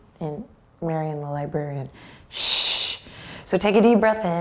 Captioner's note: shushes